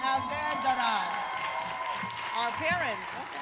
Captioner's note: all applauding and cheering